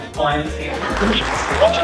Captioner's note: applause